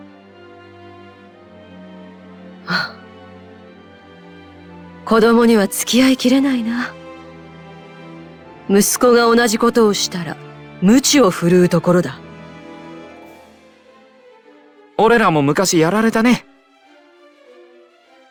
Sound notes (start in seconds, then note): 2.6 sigh